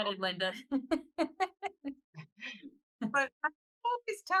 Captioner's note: laughing